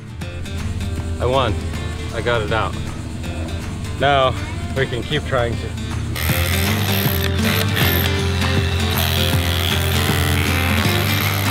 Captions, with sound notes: Okay, I won, I got it down. Now we can keep trying to (drilling drowns speaker)